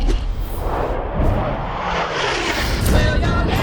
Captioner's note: jet whooshing